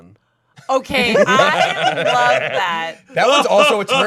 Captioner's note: group laughing